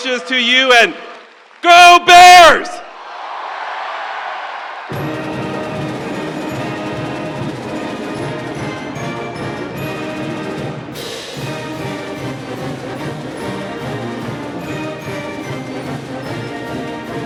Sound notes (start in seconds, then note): 4.0 crowd cheering; 5.7 exciting instrumental music